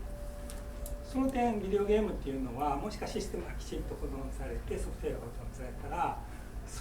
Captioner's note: speaking in foreign language